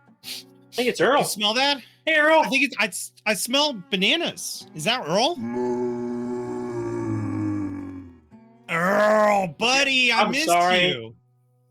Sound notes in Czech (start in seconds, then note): 8.0 sténání